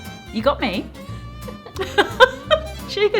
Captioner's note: laughing